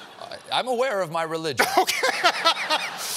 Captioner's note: laughter